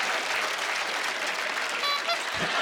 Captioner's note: honking; laughing